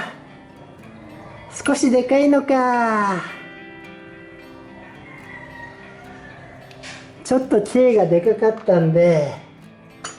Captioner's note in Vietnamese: cười